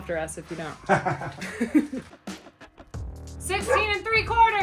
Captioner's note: laugh; dog barking